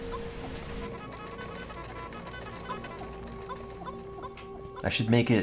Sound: hedgehog howl

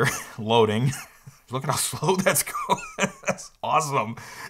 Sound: laughing

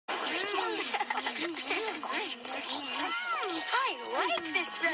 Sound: me Laughing

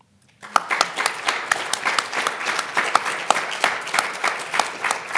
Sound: audience applauding

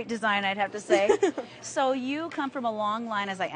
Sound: laughs

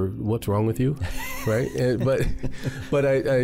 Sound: chuckles

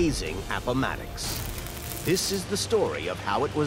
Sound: welder crackling

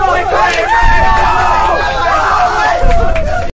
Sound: drunk cheering

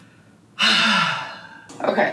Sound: sighing

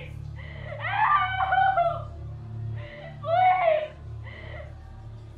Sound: crying

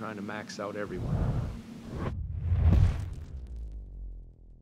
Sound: sound effects

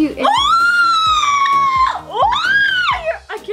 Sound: screams

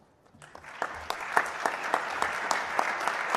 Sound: applause

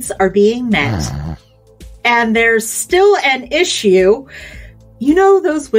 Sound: sniffs through a congested nose

